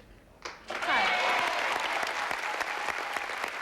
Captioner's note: applause